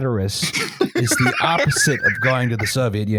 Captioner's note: laughter